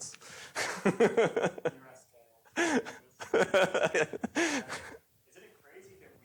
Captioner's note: laughter